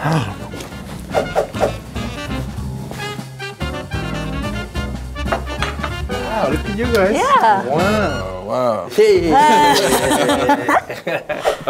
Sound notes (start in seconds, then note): 0.1 jazz music; 5.3 plates clatter; 9.3 group laughs